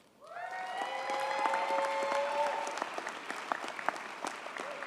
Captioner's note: audience cheers and applauds